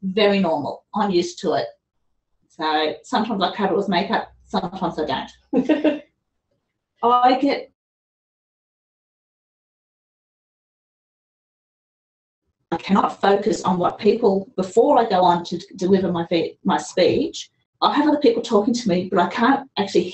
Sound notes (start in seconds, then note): 10.8 laughter; 12.1 audio cuts out